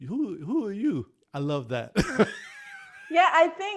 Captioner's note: laughs